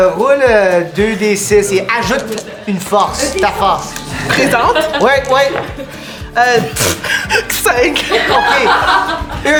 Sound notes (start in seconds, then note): 7.9 group laughs; 7.9 laughter